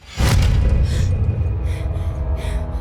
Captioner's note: gasping and panting